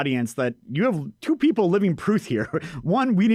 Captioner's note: chuckles